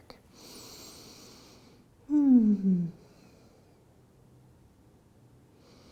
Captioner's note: breathing